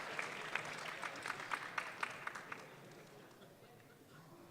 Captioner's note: audience clapping